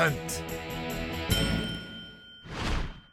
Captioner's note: bell dings